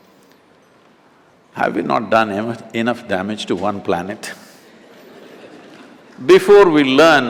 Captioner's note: few laugh